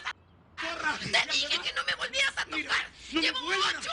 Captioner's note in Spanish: Gritos de él